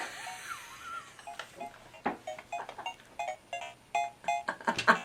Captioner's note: laughs hysterically